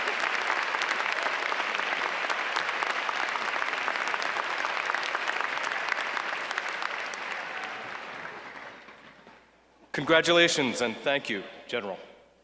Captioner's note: applause